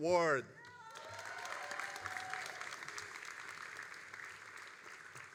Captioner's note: all applauding